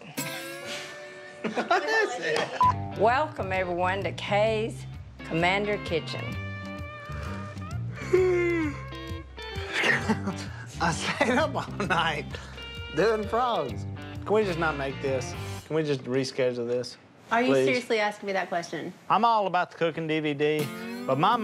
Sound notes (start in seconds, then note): 1.4 laughter; 6.7 yawning